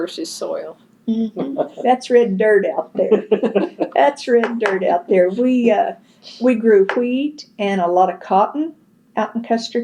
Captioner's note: laughter